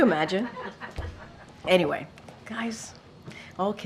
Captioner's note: laughter